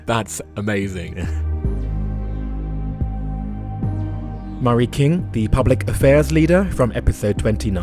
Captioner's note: voiceover